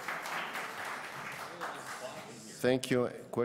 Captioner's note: applause